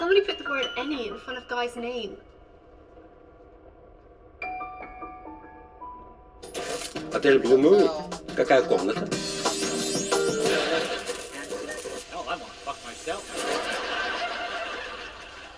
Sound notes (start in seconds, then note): 7.4 man speaking foreign language; 15.3 laughter